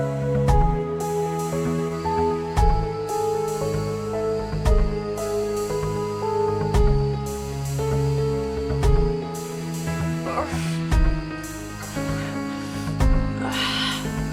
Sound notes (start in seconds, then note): 5.3 crickets; 10.1 Connie straining and grunting